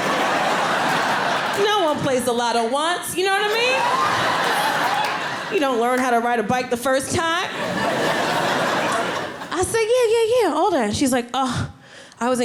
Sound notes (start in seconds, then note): 3.2 audience laughing; 7.4 audience laughing